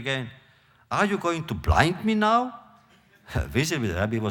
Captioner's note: laughter